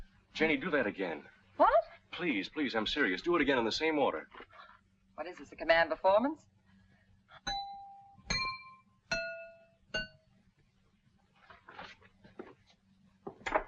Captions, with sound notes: - Janie, do that again. - What? - Please, please I'm serious. Do it again in the same order. - What is this, a command performance? (knife clanging)